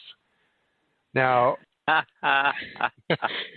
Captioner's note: laughing